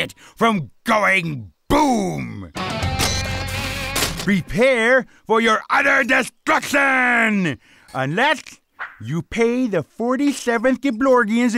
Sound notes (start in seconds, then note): 3.9 gears clanking